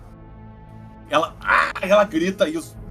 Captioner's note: arrgh